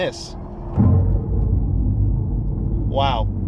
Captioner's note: Fratzonic rumbling